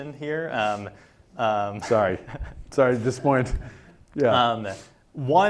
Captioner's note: laugh